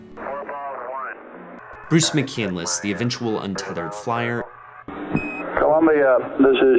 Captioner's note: chatter